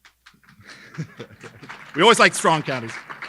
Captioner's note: audience clapping